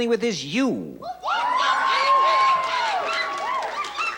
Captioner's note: screams excitedly